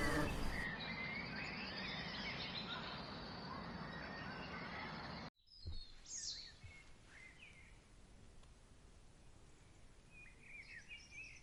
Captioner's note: birds chirping